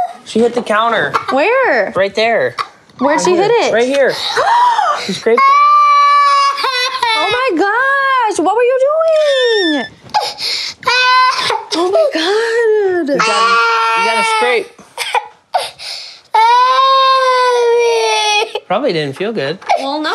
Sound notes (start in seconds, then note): 4.1 gasps; 6.5 cries; 10.7 cries; 16.3 cries